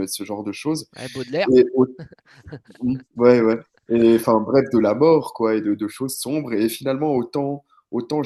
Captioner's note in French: rires